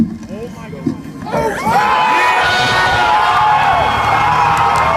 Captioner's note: cheers